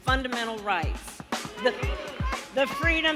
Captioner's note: crowd booing